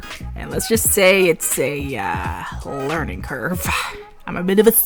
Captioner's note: exhales